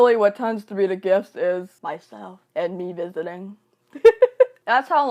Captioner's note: laughs